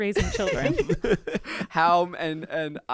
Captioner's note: everyone laughs